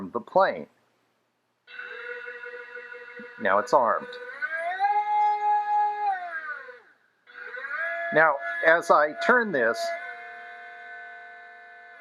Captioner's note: motor Sound